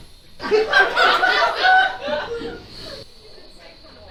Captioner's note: audience laughs